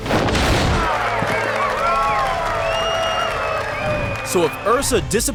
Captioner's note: cheering